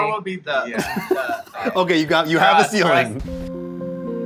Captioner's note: laughs